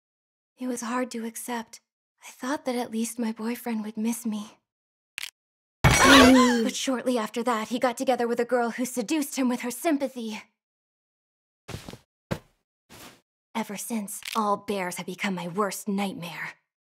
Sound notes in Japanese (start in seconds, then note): 5.9 驚きの声